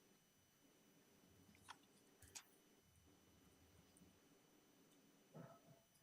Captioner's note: paper rustling continues